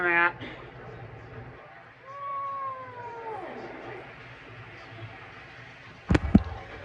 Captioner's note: normal voice; continues meowing in discomfort